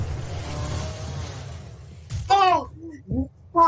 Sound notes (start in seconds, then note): 0.0 wrrrrrrrrrrrrr; 2.1 splat